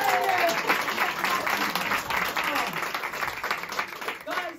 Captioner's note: applause